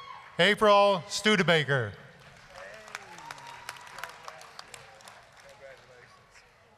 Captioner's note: applause